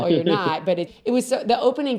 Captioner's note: laughs